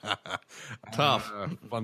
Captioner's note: laughter